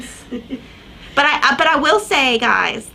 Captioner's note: chuckles